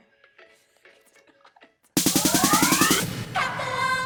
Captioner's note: laughing